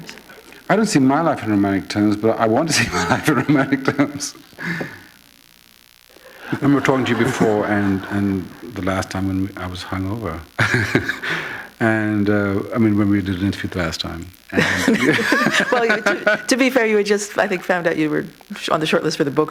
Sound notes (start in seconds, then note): 4.6 chuckle; 14.5 laughter